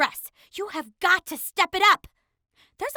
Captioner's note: none